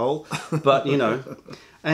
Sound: laughter

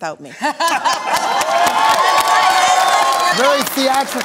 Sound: laughter; applause

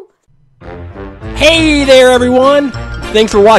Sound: theme music; voiceover

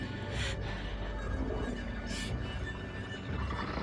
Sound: growling

